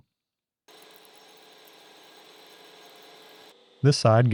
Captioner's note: drill whirs